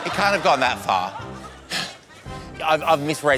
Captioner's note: sighs